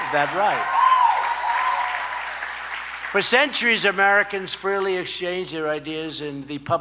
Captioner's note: applause